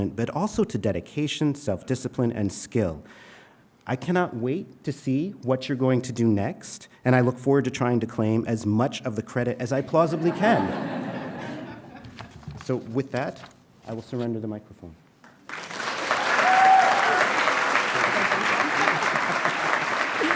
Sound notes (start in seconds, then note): 10.1 audience chuckling; 15.4 audience cheering and applauding